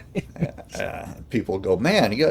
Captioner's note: laughing